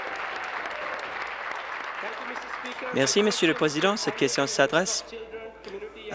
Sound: applause

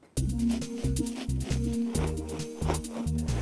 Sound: rough sawing

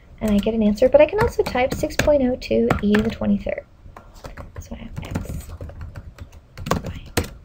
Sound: whispering to herself

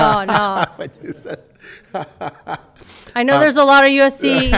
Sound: laughs

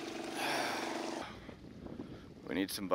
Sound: sighs

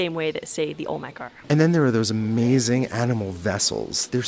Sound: voiceover

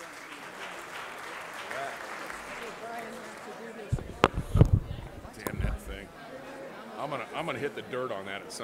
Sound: applause

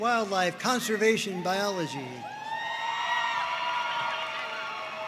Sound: audience cheering

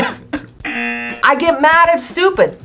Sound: laughs; buzzer rings

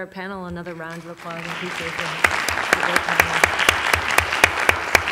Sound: applause

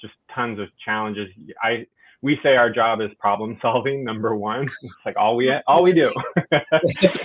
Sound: laughs

